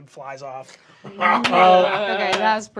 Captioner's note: laughter